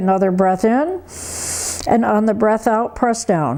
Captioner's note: breathes heavily